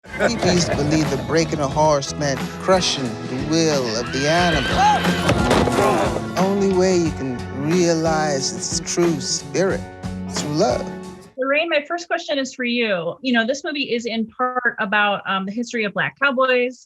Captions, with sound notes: - People used to believe that breaking a horse meant crushing the will of the animal. (horse neighing) Only way you can realize its true spirit is with love. - Lorraine. My first question is for you, you know this movie is in part about the history of black Cowboys.